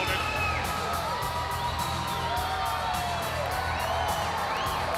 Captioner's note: crowd cheering